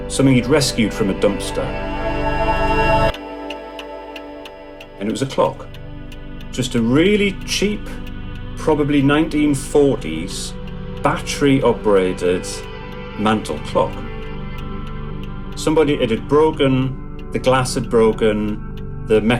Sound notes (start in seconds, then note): 2.6 airy music intensifies; 3.9 clock ticking; 6.9 low electronic music